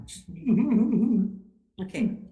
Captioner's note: laughing